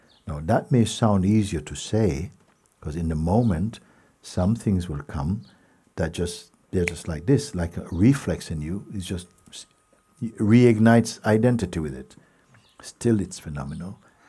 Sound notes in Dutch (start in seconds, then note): 6.8 vingerknip